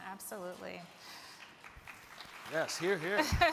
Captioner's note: crowd clapping